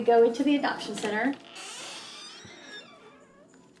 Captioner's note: door creaks as it opens